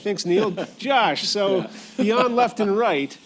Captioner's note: laughter